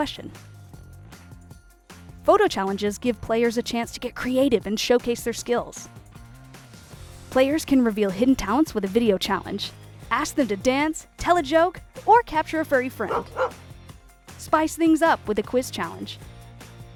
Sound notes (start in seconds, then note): 13.0 dog barking